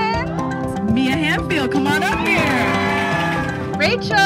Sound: cheering

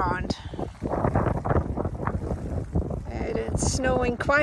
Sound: sound of wind

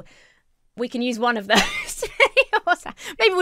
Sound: laughs

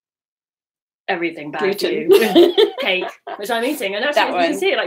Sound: laughs

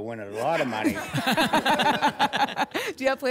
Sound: laughter

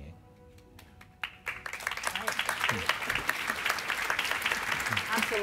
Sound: audience applauding

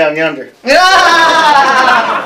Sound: laughter

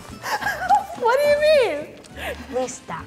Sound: laughter

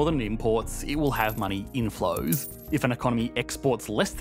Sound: money whooshing and jingling

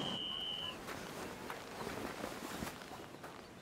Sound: whistle blows

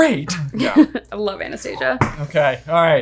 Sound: chuckles

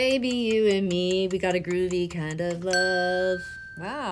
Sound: bell dinging

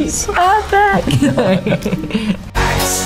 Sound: laughter

